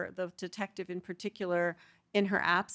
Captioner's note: none